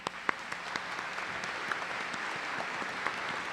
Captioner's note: applause